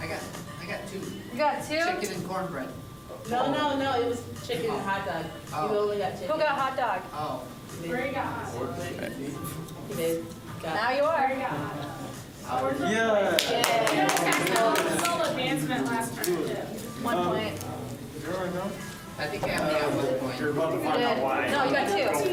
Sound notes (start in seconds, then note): 13.6 cheering; 16.7 bustling conversation